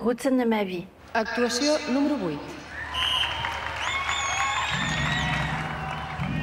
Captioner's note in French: annonceuse et applaudissements